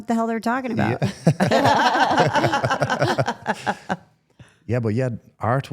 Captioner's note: participants laugh